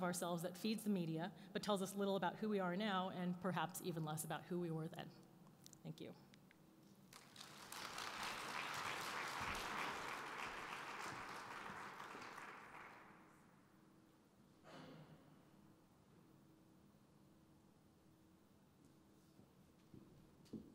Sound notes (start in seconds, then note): 7.1 applause